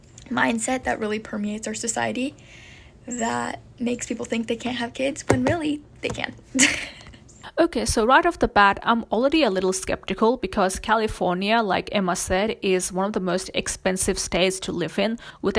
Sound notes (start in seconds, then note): 6.6 laughs